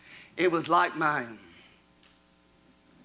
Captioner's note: none